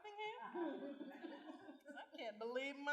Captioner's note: laughter